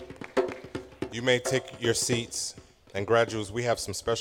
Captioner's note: applause